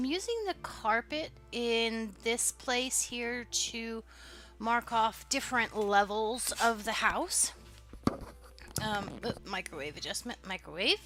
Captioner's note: popping noise